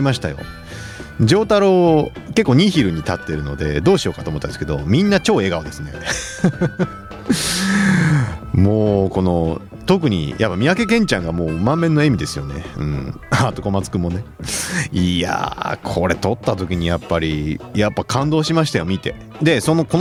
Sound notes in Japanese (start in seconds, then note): 6.0 笑い